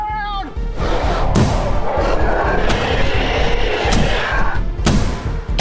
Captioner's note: continued roars; gunfire